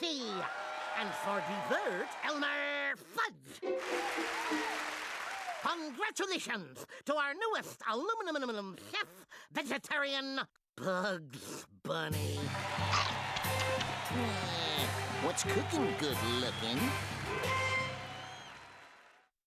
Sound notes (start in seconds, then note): 0.2 audience cheering; 3.6 crowd cheering; 12.4 audience roaring